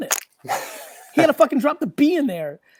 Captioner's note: laughs